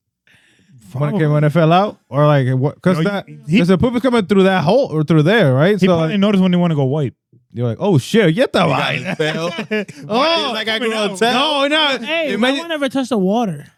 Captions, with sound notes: When it fell out or like, cause the poop was coming through that hole or through there, right? He probably noticed when they wanna go white. You're like, oh shit, you got that right. (Laughing) Wow, come on now. You guys are gonna tell? No, no. Why never touch the water?